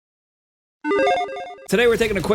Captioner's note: alarm ringing